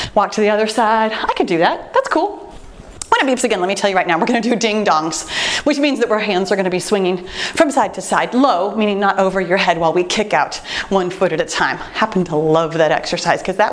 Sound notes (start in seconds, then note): none